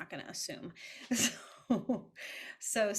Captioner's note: chuckles